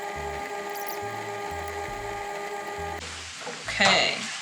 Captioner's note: tape fast forwarding